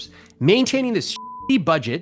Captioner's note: beep